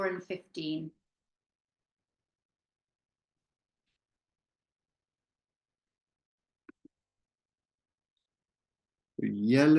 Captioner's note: silence